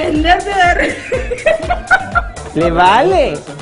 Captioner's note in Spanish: risas